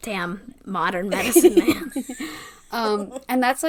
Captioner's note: laughs